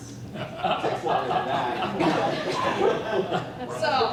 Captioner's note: laughter